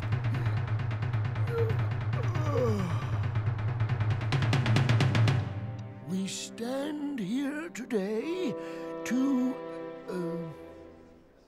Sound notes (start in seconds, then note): 2.3 strains